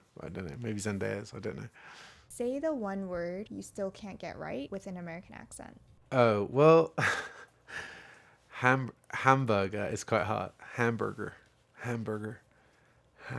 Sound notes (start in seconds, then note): 7.0 laughing